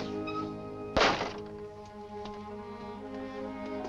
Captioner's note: door slams shut